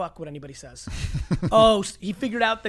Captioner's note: laughs